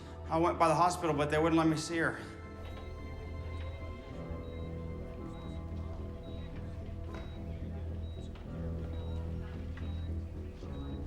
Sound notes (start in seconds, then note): 2.6 monitor beeping; 7.3 gentle tense music